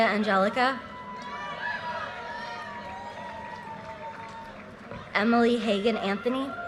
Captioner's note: audience cheers and applause